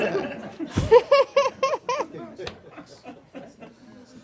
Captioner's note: laughing